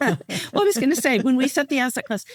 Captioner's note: laughing